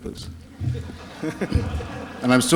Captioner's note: laughter